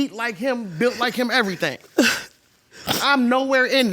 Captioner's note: sobbing